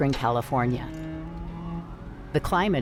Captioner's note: siren blares